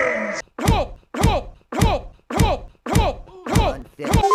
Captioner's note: infinitive Thuds